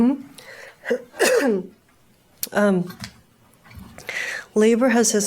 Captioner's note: coughs